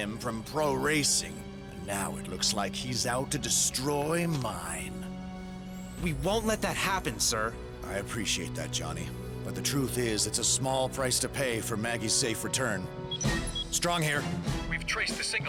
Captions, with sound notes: WHEN I BANNED HIM FROM PRO-RACING, AND NOW IT LOOKS LIKE HE'S OUT TO DESTROY MINE. WE WON'T LET THAT HAPPEN, SIR. I APPRECIATE THAT, JOHNNY. BUT THE TRUTH IS IT'S A SMALL PRICE TO PAY FOR MAGGIE'S SAFE RETURN. (COMMUNICATOR BEEPS) STRONG HERE.